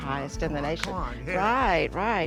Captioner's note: palms clapping